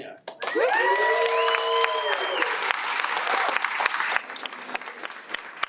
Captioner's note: audience cheers and applauds